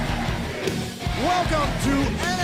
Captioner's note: crowd cheering